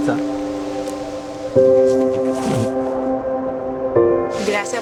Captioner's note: speaking Spanish; speaking in Spanish